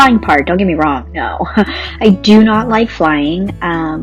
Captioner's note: laughs